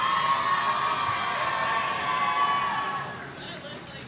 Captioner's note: audience cheering